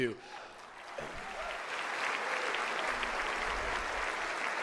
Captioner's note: audience applauds